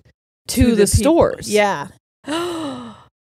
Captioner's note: gasps